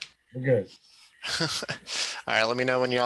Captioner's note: chuckles